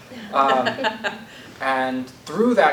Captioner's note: laughter